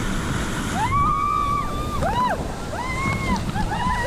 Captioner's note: water rushing; all screaming